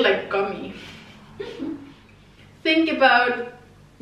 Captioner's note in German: laughs